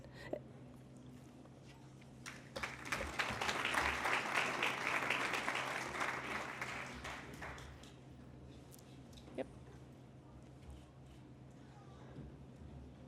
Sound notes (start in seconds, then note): 2.2 applause